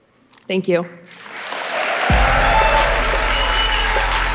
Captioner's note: audience applauding; upbeat music